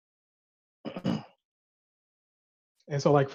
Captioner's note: clears throat